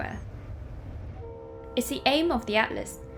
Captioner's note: train horn blares